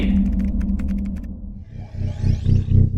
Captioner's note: keyboard clacking; ominous atmospheric music